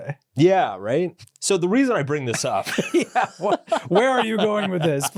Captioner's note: laughs